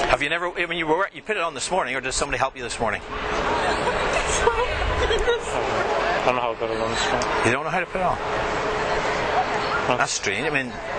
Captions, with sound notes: Have you never, when you were, you put it on this morning or does somebody help you this morning? (laughing) I don't know how to put it on this morning. You don't know how to put it on? That's strange, I mean,